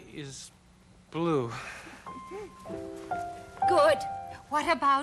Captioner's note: sighs